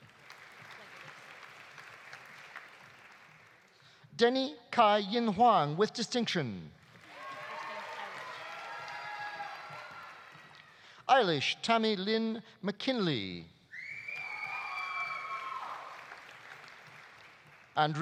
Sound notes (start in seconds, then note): 0.0 audience applauding; 6.8 audience applauding; 7.0 audience cheering; 13.8 audience cheering; 13.8 audience applauding